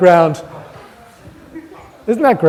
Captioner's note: audience laughter